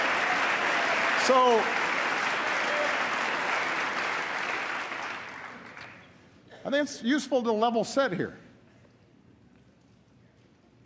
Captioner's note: applause